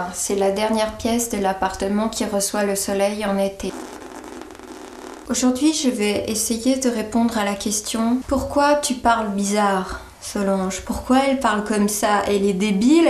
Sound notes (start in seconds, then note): 3.9 noisy breathing